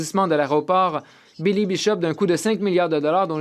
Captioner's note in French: voix de l'interprète